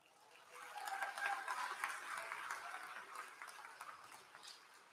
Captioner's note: applause